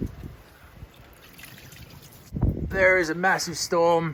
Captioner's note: fluid draining